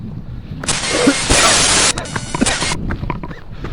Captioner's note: glitch sound